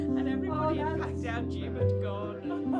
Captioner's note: colleagues laughing; laughing